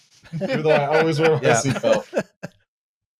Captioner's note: laughter